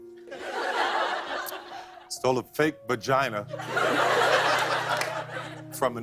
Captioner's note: laughter; laughter